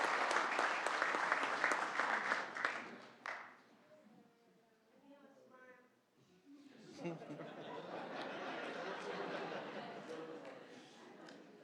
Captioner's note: applause